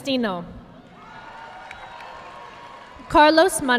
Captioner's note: audience clapping